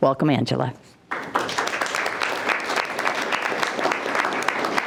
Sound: group applauding

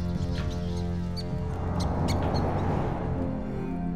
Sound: squeaking

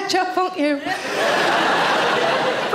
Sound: audience laughing

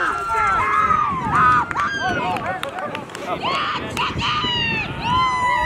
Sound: yells

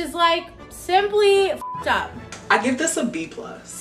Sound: beep

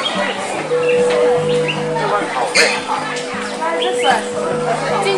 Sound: ding ~ Ding ~

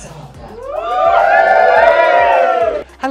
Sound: crowd cheers

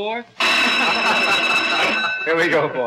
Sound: buzzer

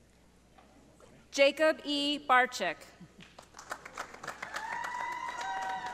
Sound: audience applauding

